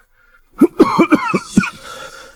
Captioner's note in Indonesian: uhuk uhuk uhuk